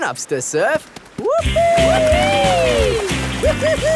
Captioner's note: both whooping